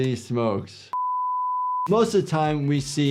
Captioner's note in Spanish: pitido de pantalla